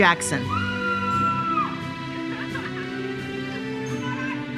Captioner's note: attendees cheering